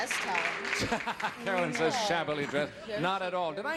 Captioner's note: laughing